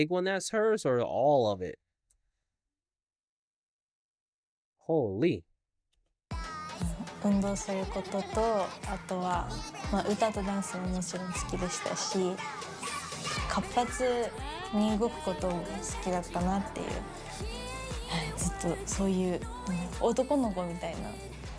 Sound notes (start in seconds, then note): 6.6 non-english speech; 14.9 non-english speech